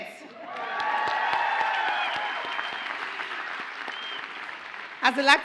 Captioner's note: audience cheers and applauds